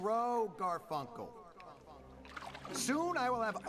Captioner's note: voice echoes